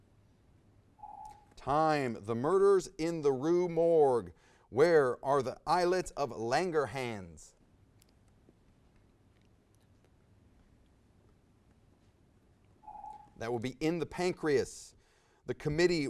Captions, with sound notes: (timer dings) - Time- The Murderers in the Rue Morgue. Where are the islets of Langerhans? (timer dings) That would be in the pancreas.